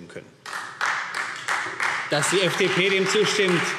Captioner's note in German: Beifall Freie Demokraten